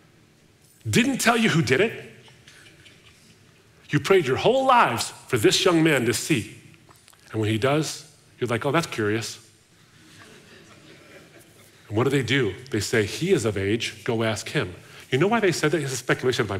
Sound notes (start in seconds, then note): 10.0 audience laughing